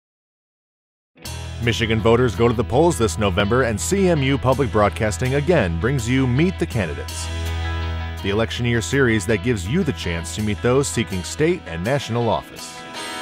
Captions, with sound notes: - [Voiceover] Michigan voters, go to the polls this November and CMU Public Broadcasting again brings you Meet the Candidates, the electioneer series that gives you the chance to meet those seeking state and national office.